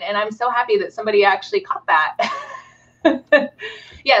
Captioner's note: laughing